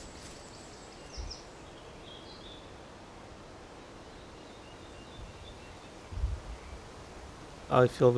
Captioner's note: forest ambience